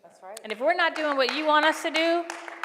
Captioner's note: applause